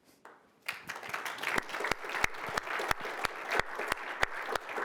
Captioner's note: applause